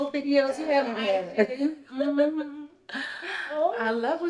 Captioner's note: Junie laughs